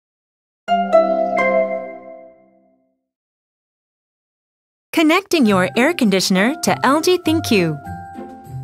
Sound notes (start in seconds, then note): 0.8 chime Bell; 6.6 introduction Music